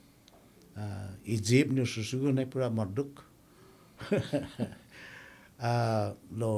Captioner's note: laughing